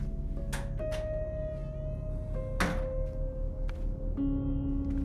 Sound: door creaks open, bangs on wall

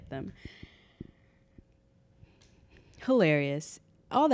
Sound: sighs

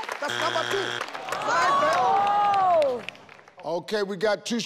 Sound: failure buzzer buzzes

